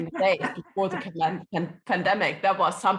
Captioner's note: laughing